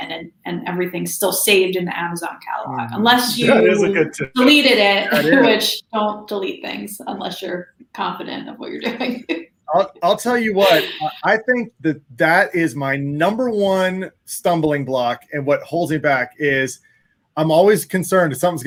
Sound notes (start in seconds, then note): 3.2 chuckles; 9.7 laughs